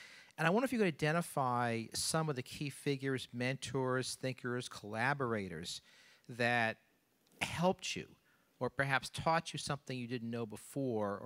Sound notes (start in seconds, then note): none